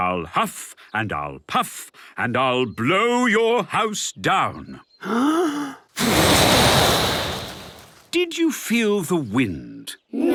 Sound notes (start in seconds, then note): 5.0 inhaling deeply; 5.9 blowing